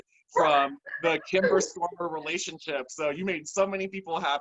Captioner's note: laughter